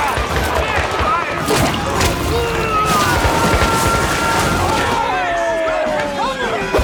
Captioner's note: gunshots popping; soldiers screaming